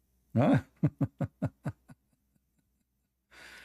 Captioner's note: Ketawa